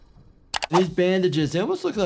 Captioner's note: mouse clicks